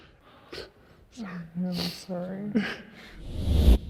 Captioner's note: sniffles